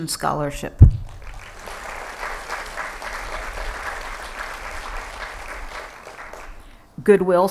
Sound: applause

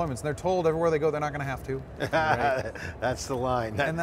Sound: laughs

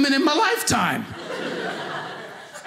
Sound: audience laughing

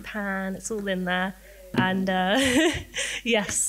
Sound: laughs

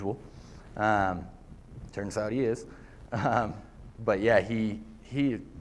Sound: laughter

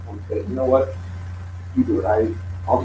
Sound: laughs

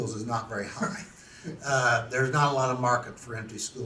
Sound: laughs to self

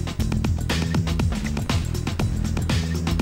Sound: none

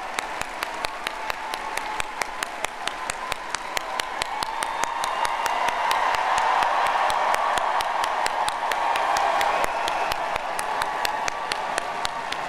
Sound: applause

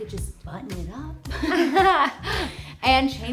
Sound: laughs

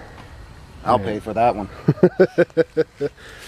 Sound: laughter

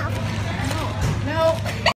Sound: laughs

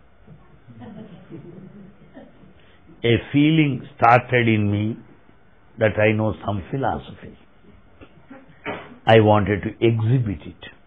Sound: laughter

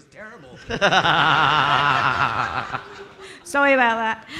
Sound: audience laughing

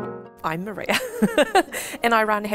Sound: laughs

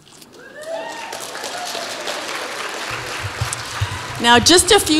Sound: audience applauds

